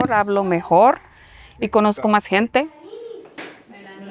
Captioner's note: speaking spanish